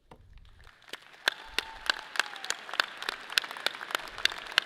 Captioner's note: audience applauds